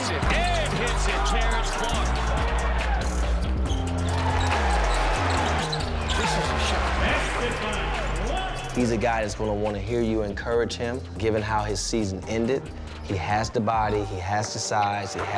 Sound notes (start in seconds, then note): 0.1 intense hip hop music; 1.7 crowd cheering